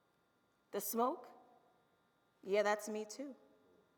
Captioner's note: none